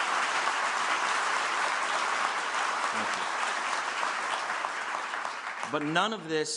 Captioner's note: applause